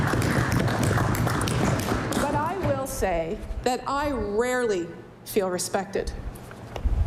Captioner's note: applause